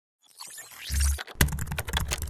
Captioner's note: robotic sound; keyboard typing